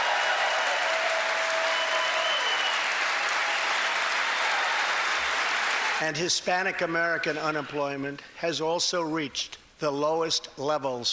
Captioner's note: cheers and applause